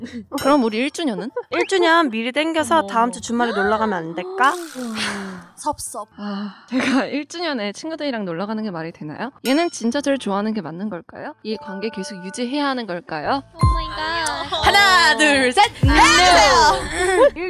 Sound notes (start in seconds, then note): 4.2 group sigh